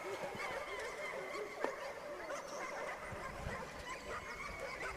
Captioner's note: dogs barking